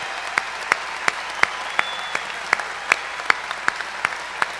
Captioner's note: cheers and applause